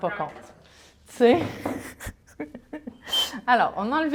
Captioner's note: laughter